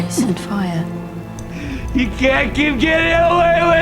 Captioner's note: gulps